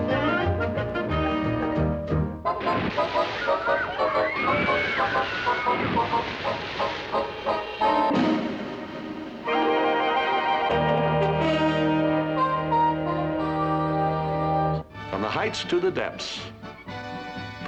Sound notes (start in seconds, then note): 3.4 riders scream